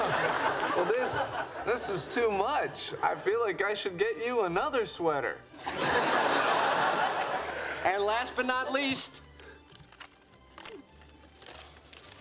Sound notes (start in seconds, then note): 0.0 laughs; 5.6 audience laughing